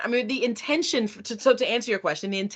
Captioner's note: none